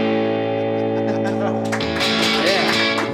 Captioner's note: laughing; audience applauding